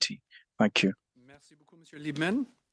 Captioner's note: speaking French